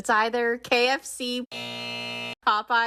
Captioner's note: soundbite of buzzer